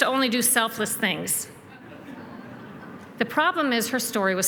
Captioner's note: laughter